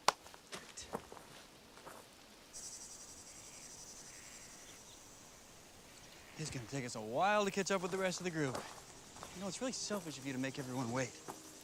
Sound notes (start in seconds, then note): 1.8 insects chirping and buzzing; 11.3 birds chirping; 11.3 gentle music